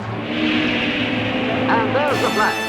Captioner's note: car engine roaring